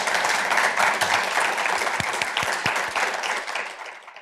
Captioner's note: applause